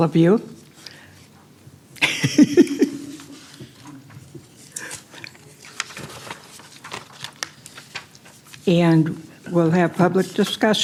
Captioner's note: laughter